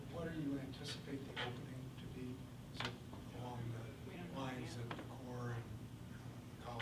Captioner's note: faintly speaking